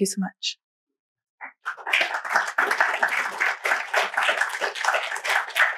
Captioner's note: applause